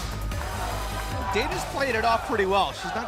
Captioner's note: crowd cheering